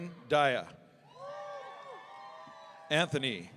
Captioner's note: audience cheering